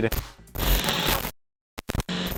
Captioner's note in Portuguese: som de glitch